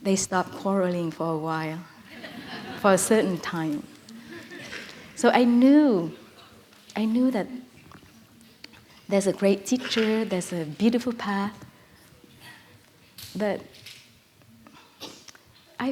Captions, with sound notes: They stopped quarreling for a while. (Laughter) For a certain time. So I knew, I knew that there is a great teacher, there is a beautiful path,